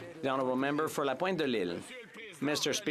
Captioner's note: some Applause